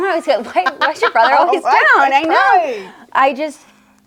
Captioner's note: laughs